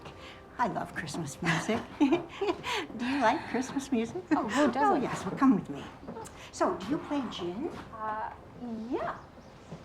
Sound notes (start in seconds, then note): 1.9 both chuckling